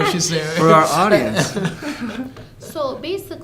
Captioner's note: laughter